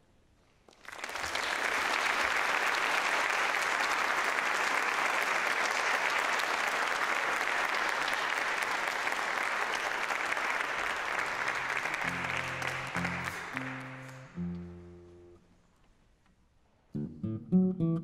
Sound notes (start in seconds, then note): 0.6 applause